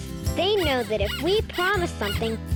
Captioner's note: pig squeaking